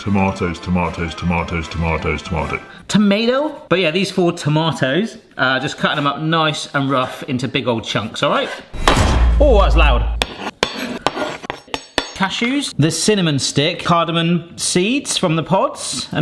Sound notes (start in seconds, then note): 8.8 bowl thumps; 10.1 knife scraping